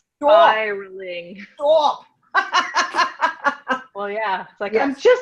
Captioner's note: laughs